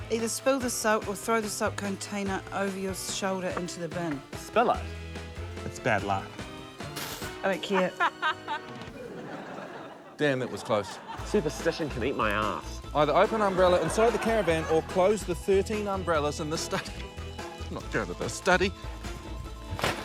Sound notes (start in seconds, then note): 17.3 scoffs